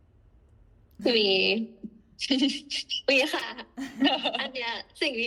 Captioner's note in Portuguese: risos